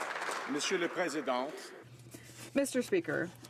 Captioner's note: some Applause